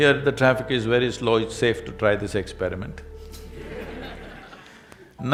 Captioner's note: laughter